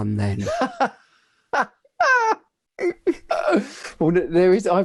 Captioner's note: laughing